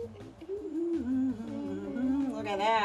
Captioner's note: both hum